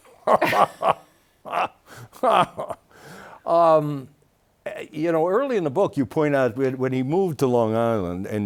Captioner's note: laughing